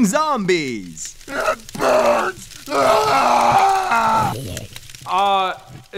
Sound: screaming

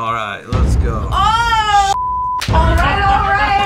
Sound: beep

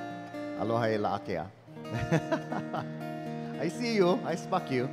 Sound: speaking in Hawaiian

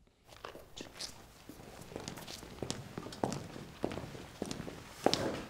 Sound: footsteps tapping floor

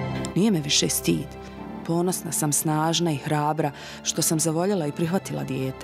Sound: woman speaking in foreign language

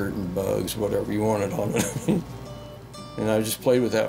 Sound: laughs

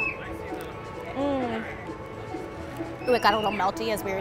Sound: grunts with satisfaction

